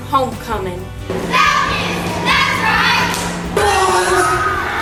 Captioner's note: cheer team cheering